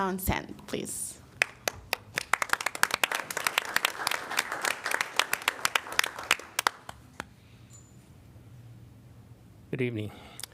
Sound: applause

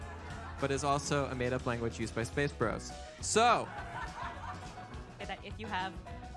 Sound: laughter

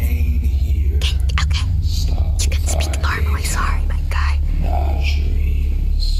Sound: whispers

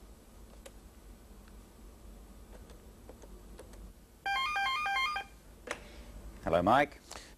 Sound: pause; telephone rings

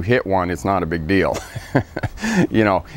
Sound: laughs

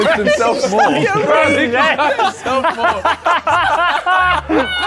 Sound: Sidemen laughing

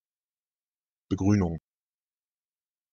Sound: fast Pronunciation

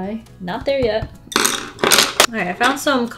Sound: pencils clatter on desk

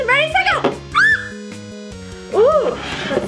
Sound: screams

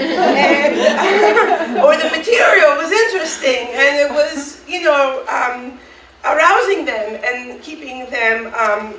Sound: audience laughing

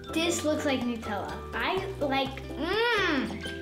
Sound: moaning

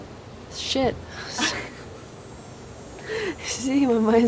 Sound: laugh

